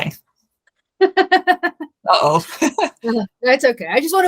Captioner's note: laughter